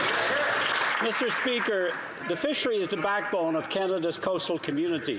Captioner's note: applause